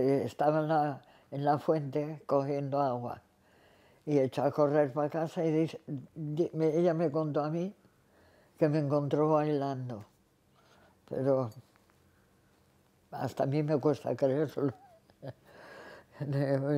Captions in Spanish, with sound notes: Sí, que estaba en la fuente cogiendo agua y echó a correr para casa, y ella me contó a mí que me encontró bailando. Pero... hasta a mí me cuesta creérselo [Ríe].